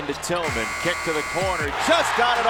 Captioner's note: buzzes